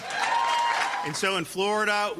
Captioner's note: cheering and applause